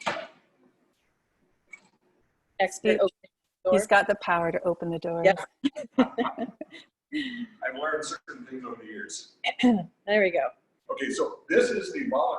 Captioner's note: laughs